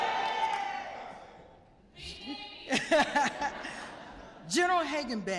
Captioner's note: laughter